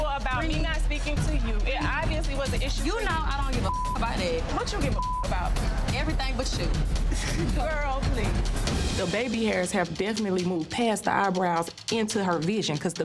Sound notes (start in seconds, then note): 3.5 beep; 7.0 chuckles